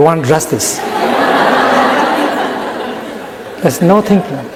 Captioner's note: laughter in the audience